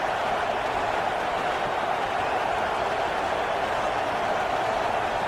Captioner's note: crowd Noises